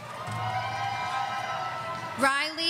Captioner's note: audience cheering